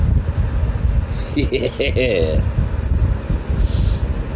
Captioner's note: Caprice continues to growl; Ella laughs; Caprice growling